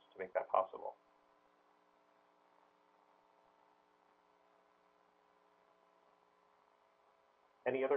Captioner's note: pause